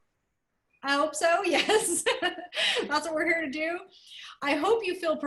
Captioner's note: laughter